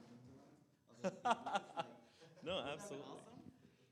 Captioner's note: laughs